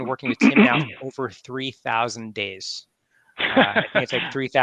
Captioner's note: laughs